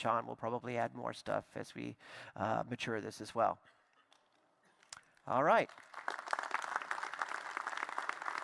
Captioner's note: applause